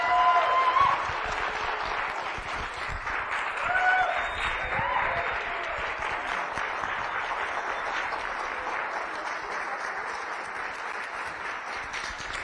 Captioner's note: cheering and applauding